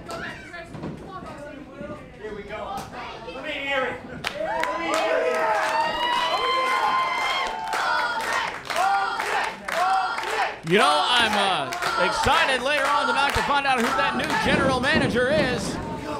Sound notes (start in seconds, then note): 4.4 crowd cheering; 7.5 crowd